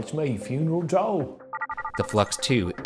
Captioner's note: device chiming